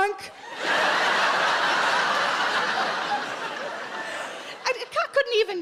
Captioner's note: audience laughs